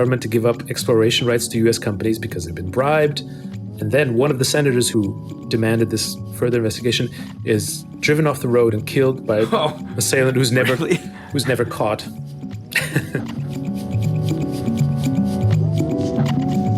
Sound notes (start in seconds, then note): 10.5 chuckles; 13.4 electronic music